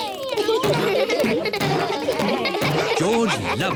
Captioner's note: kids laughing